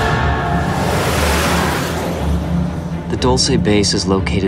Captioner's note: whooshing